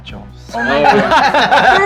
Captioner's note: laughs